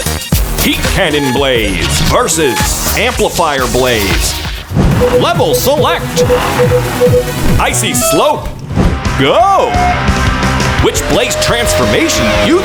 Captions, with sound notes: Heat Cannon Blaze versus Amplifier Blaze Level select. [beeping] Icy slope. Go. Which Blaze transformation do you think